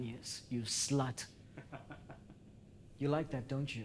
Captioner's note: Ed laughs